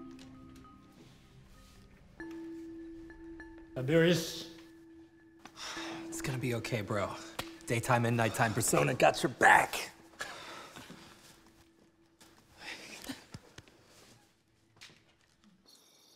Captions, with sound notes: Tiberius... [sighs] It's gonna be okay, bro. Daytime and nighttime persona got your back! Hey.